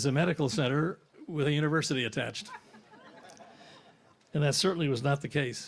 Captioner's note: audience laughs